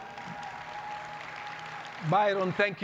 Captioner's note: audience cheering and clapping